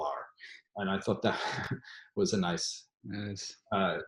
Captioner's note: chuckles